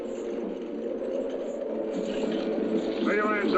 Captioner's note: soft dramatic music; chains rattling